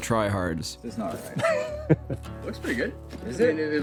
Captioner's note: laughs